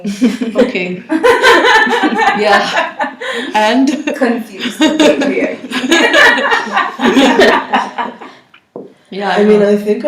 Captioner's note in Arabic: ضحكات